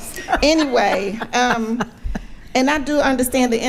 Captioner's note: attendees laughing